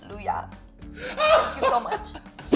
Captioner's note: laughing